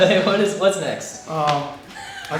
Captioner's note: laughing